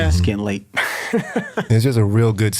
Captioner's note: laughs